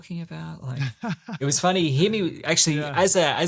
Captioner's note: laughs